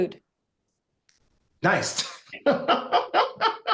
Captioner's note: laugh